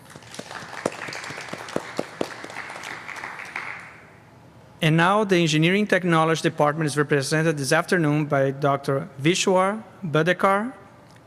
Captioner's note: applause